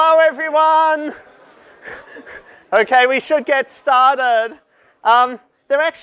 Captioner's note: laughter